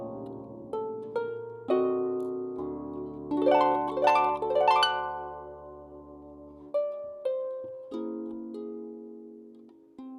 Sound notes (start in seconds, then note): none